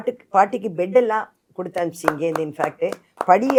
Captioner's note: applause